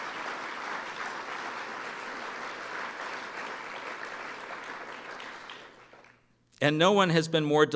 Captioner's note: applause